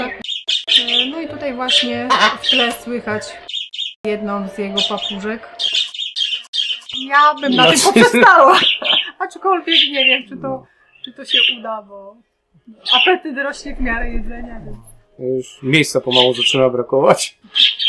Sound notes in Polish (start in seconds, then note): 6.0 ćwierkanie